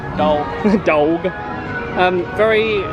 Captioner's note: laughs